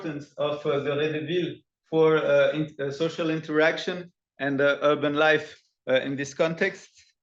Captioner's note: non-english